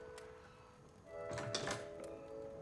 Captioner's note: door opens